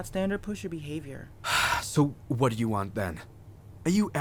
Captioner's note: sighs